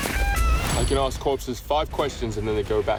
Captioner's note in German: Metall klirrt